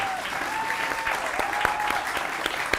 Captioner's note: applause and cheering